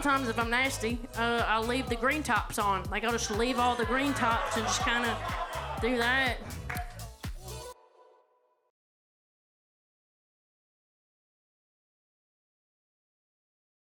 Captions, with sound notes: And sometimes if I'm nasty, I'll leave the green tops on. Like, I'll just leave all the green tops and just kind of do that. (audience laughing) (uptempo music ends)